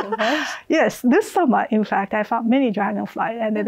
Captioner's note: laughs